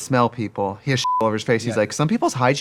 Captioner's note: beeping